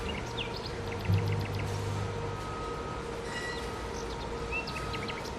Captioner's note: birds chirping